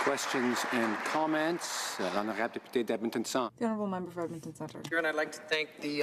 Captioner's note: applause